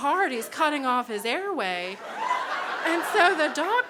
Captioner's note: crowd laughs